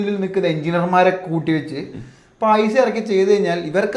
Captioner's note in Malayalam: തൊണ്ട ശരിയാക്കുന്നു